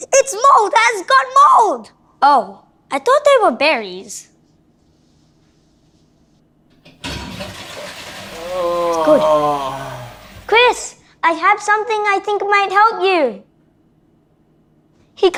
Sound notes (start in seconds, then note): 8.9 flushing toilet; 9.8 groans